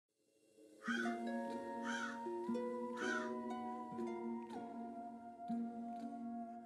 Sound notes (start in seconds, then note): 0.6 ominous music; 1.8 bird cawing